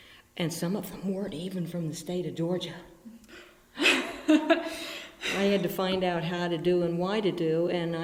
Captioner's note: laughs